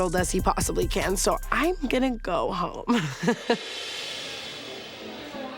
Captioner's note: laughs